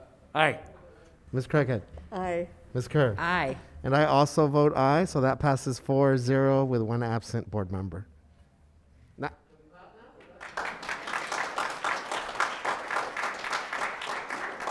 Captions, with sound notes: - Ms. Craighead? - Aye. - Ms. Kerr? - Aye. - And I also vote aye. So that passes four zero, with one absent board member. (members applauding)